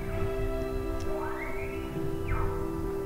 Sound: caller bugling

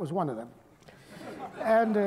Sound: laughter

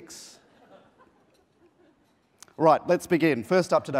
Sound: laughing

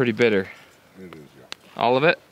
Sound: mumbles

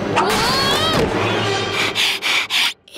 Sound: panting

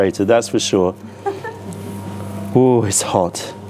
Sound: laughter

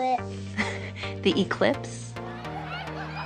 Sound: laughs; wild cheering

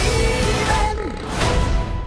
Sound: burps

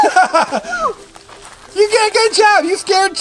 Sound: man laughing

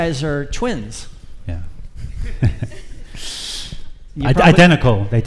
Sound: laughs

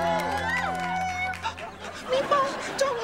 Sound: meowing

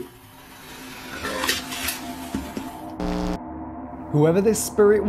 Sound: growling

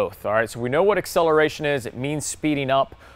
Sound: none

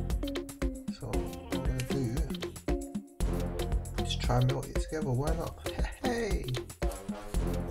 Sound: laughing

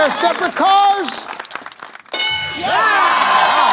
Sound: bell dings; applause

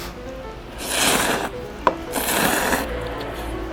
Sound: slurping noodles X 4

